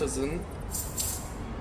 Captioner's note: clink